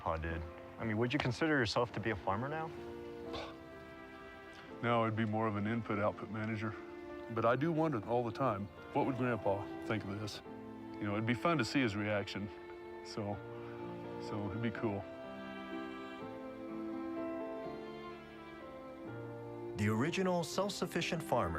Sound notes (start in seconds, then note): 2.6 scoffs